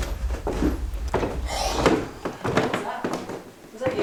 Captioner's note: footsteps